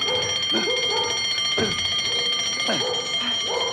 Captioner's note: ringing and barking continue